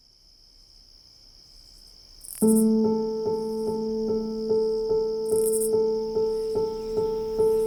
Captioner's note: crickets chirping; gentle piano music